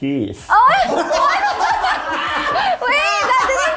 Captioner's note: cast laughing